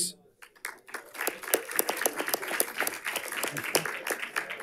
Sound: audience applauding

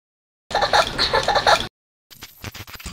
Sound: laughing

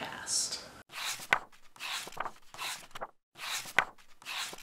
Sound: pages turning

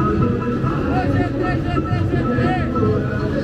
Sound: speaking in foreign language; upbeat music

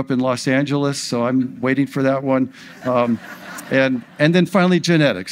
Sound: audience laughs

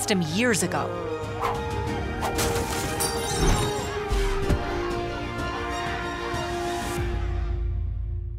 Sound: crowd cheering; triumphant music

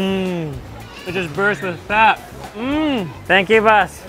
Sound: murmurs

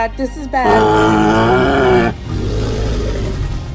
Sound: triceratops sounds

